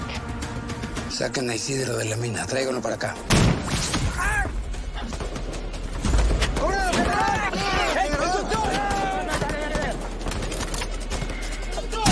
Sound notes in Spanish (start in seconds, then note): 3.3 Disparo; 4.1 Grito